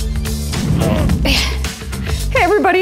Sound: grunts

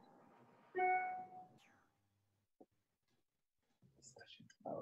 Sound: computer tone

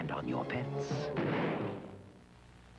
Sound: explosion

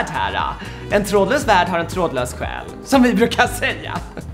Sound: laughter

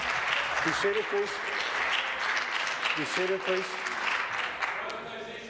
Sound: applause

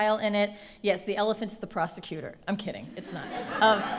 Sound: laughing

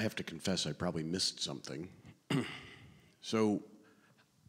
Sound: clears throat

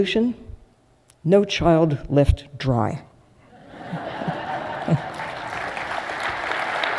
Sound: applause

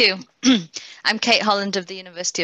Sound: clears throat

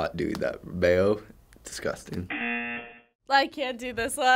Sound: buzzer

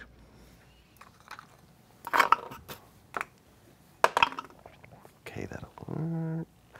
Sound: dice clatters

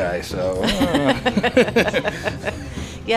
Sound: laughing

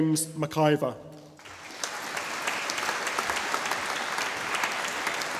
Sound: audience applauding

